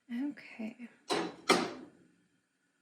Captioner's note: pan clanging